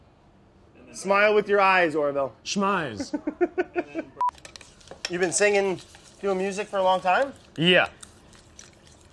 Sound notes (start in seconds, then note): 3.0 laughs